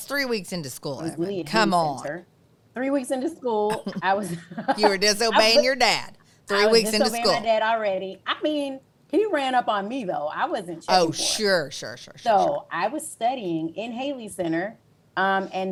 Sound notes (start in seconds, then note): 3.7 laughs